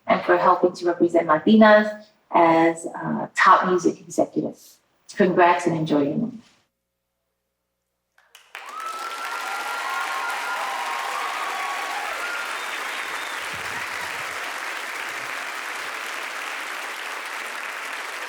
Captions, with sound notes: and for helping to represent Latinas as a top music executive. Congrats and enjoy your moment. (audience applauding) (audience cheering)